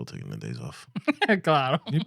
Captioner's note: laughing